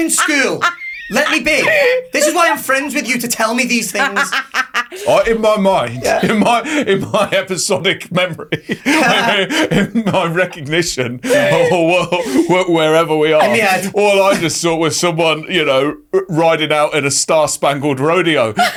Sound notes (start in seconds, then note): 0.1 laughing; 9.4 laughs